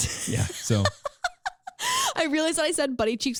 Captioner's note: laughing